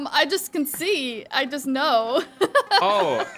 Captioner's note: laughs